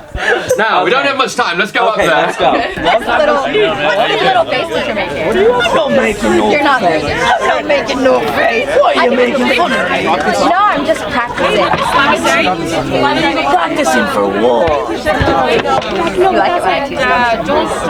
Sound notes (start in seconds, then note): 2.2 people chattering; 12.2 people chattering